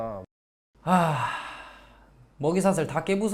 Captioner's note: sigh